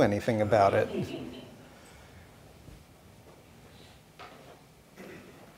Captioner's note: audience laughing